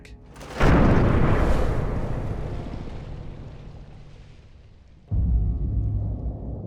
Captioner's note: crashing; water splashing